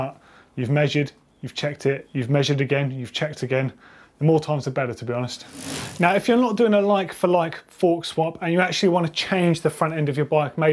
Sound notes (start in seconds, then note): 5.4 bike wheel spinning